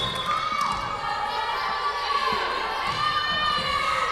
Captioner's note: whistle blowing